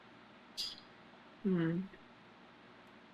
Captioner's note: sucks teeth